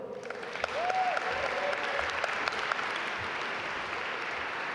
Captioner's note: audience applaud